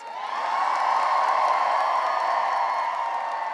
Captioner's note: cheering and applause